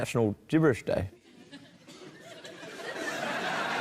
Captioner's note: scattered laughter